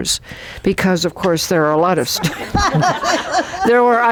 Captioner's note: laughter